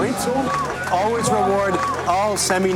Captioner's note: cheering and applause